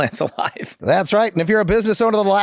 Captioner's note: Glenn chuckles